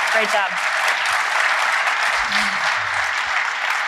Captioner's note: applause